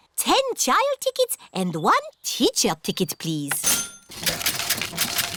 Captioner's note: cash register dings